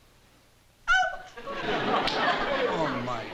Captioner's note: yelps